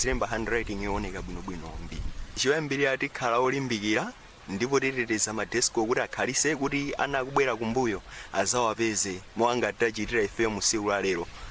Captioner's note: speaking in a global language